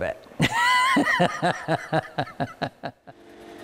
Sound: laughing

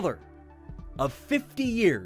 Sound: sounds of pre- game introduction

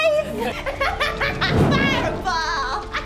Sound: laughs

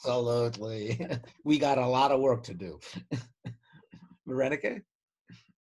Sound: laughs; laughs

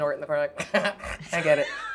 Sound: snorts

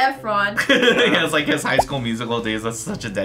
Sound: laughs

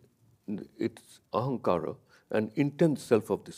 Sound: speaks in a foreign language

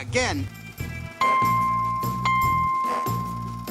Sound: dings

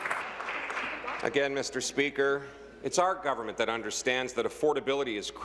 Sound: applause

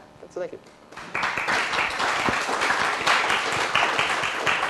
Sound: applause

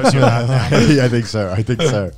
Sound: both laughs

